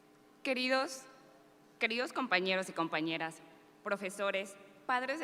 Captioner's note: speaking in Spanish